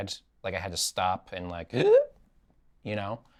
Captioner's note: makes gasping noise